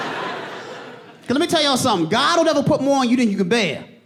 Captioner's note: audience laughing